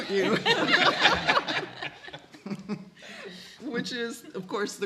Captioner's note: all laughing